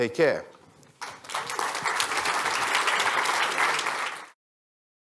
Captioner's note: applause